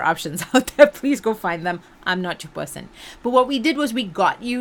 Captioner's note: laughs